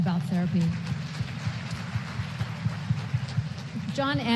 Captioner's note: applause